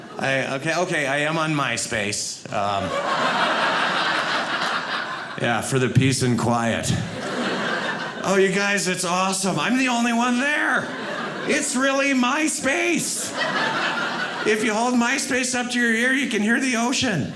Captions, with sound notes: Okay. Okay. I am on Myspace. (audience laughing) Yeah, for the peace and quiet. (audience laughing) Oh, you guys, that's awesome. I'm the only one there. It's really my space. (audience laughing) If you hold Myspace up to your ear, you can hear the ocean.